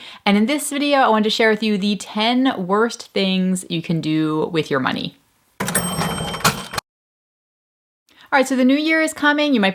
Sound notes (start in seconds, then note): 5.6 ringing